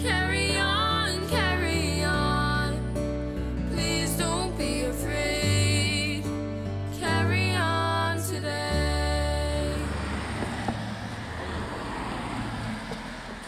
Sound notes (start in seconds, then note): 8.7 engines humming